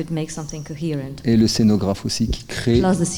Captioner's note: speaking in French